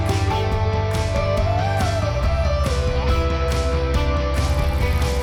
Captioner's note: applause